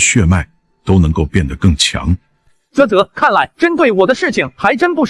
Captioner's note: tsk